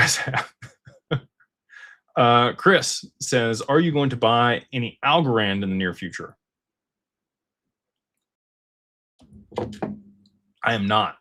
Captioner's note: laughter